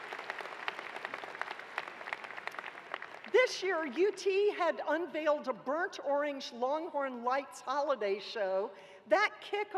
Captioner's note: cheers and applause